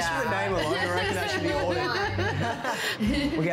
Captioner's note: laughing